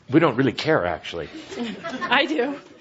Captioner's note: laughter